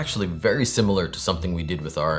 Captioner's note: none